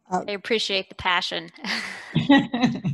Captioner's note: chuckles